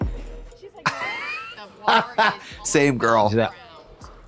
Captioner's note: Trixie guffaws